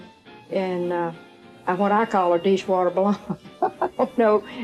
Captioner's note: laughs